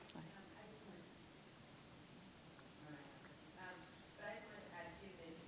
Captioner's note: woman speaking faintly